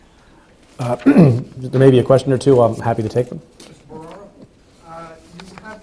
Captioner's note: clears throat